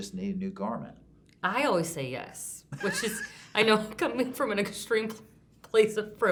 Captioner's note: laughter